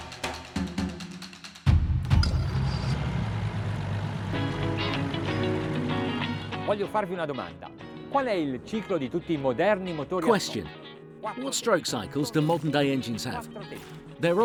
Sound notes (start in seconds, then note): 2.0 engine starts; 5.9 bright music